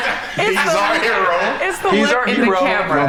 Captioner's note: group laughs